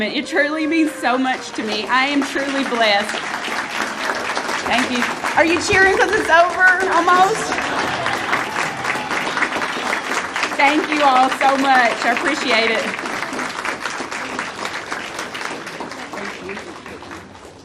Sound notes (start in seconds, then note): 3.3 audience applauding